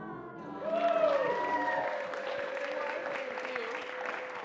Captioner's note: audience cheers and claps